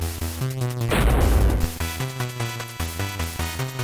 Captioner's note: thud